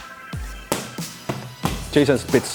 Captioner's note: claps hands in rhythm; gloves hitting hands